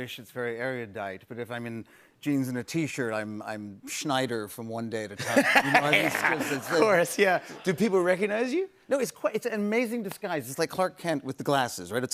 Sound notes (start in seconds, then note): 5.2 laughs